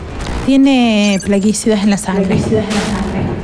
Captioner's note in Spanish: Con eco